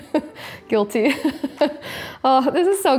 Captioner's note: chuckles